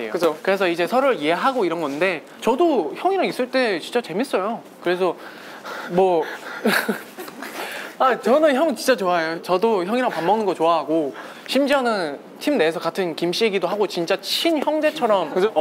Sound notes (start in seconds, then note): 6.5 awkward laughter